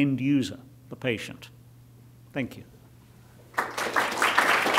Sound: clapping

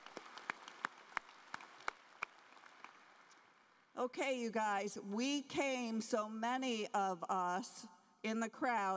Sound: applause

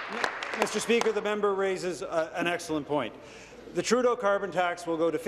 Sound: applause

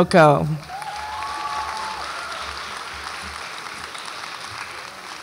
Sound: audience applauds and cheers

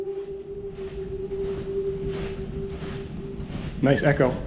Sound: voice echoes

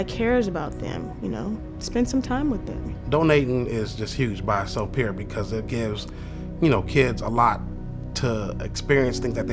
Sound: man speaking

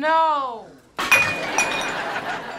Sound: laughing

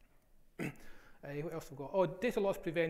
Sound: coughs

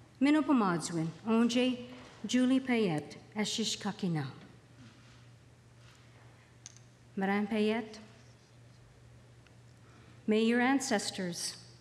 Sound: speaking alternate language

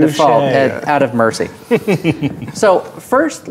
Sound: chuckles

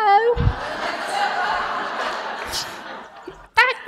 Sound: laughter

